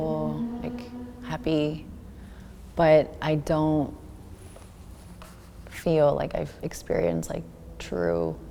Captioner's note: none